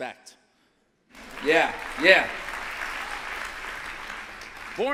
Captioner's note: applause